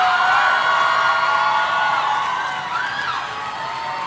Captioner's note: audience cheering